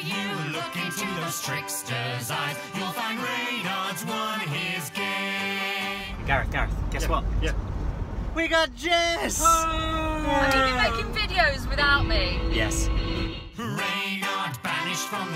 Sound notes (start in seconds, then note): 9.5 cheering